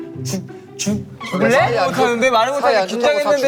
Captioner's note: sudden outburst